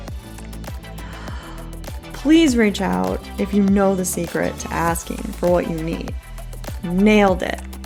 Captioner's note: inhale